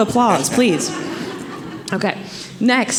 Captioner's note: audience laughing